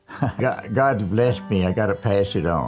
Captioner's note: chuckles